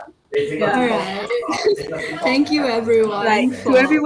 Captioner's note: laughs